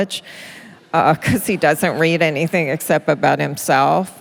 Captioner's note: laughter